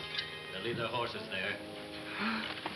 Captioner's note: Pancho gasps